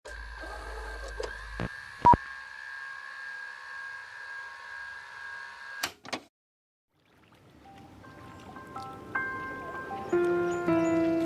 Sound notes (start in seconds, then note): 0.0 film whirring; 2.0 logo beeps; 7.1 gentle music